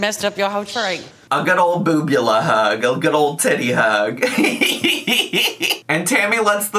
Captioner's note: laughs